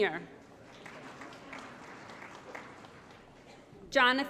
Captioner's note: applause